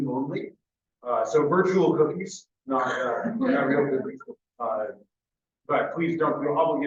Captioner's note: laughs